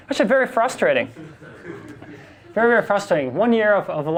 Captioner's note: class and instructor laugh